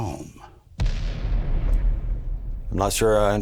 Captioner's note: bomb thundering